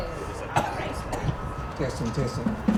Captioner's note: people chattering softly; spokesman coughs